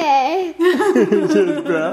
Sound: laughter

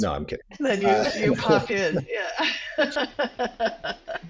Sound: laughs

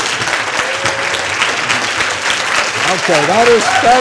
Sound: applause and cheering

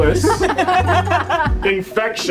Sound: group laughs

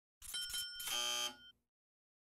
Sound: dings; buzzer

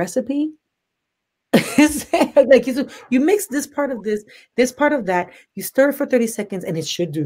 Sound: laughs

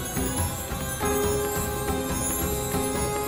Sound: conch blowing

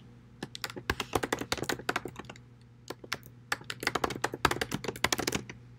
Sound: annoying sound of typing on a keyboard

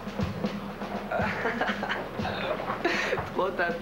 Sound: Rire moqueur

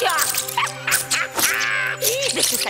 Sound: witch cackles

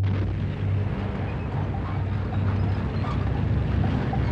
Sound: tanks rumbling

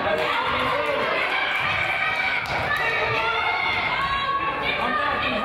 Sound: crowd applauds and yells

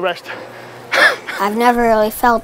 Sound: coach coughing

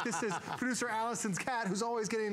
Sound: laughter

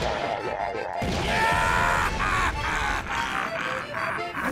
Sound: evil laughter

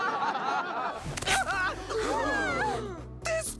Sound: canned laughter; man yelps and crowd gasps

